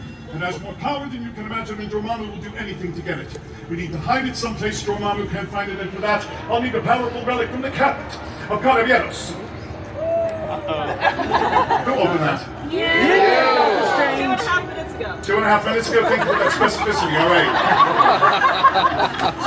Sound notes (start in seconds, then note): 10.4 guests chuckling; 17.9 guests laughing